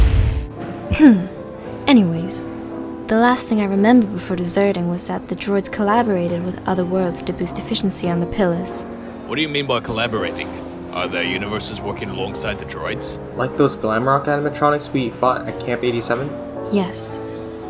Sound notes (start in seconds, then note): 1.7 ahem